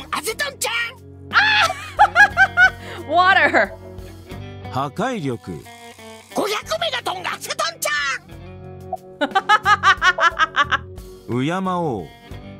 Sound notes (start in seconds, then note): 1.7 chuckles; 9.2 laughs